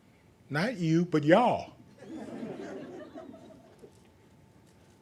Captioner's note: laughing